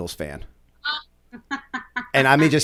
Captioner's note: chuckle